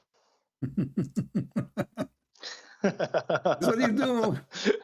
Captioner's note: Ketawa